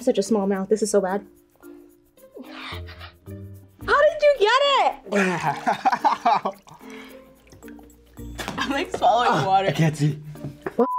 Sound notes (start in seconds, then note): 5.1 laughs